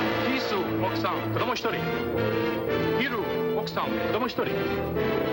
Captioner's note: speaking foreign language